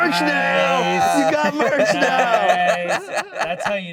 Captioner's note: all laughing